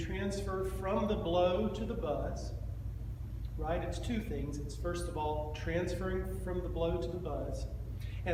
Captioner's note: fluxo de ar